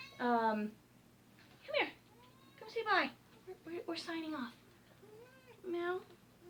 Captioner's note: meow; meow